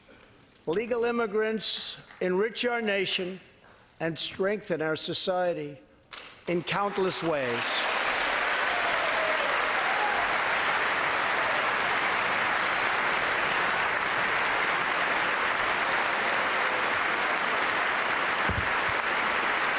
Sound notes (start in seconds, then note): 12.9 applause